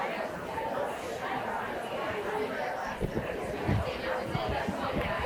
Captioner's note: people chattering continues